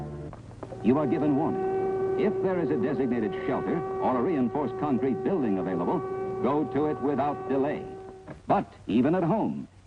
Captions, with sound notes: which endanger man. You are given warning, (loud siren) if there is a designated shelter or a reinforced concrete building available, go to it without delay.